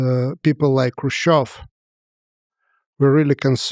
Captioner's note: speaks foreign language